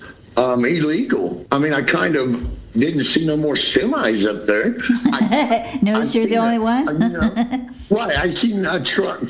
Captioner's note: laughter